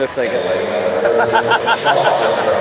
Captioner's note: laughter